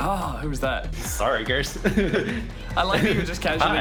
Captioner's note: laughs